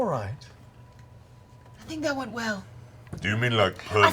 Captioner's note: whispers